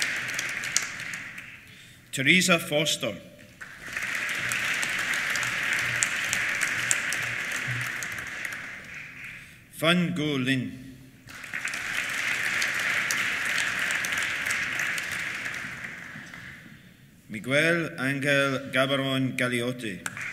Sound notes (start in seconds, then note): 3.4 applause; 11.2 applause